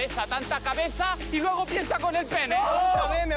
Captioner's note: shouts